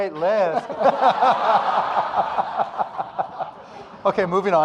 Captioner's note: audience laughing